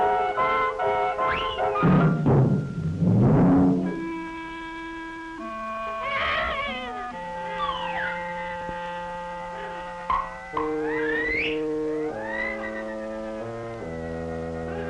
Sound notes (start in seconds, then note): 1.7 timpani drumming; 5.9 distressed cry